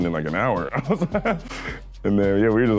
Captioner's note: laughing